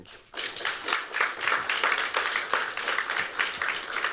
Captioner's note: applause